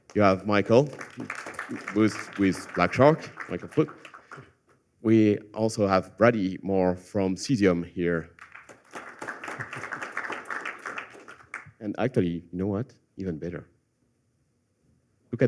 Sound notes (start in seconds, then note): 8.3 applause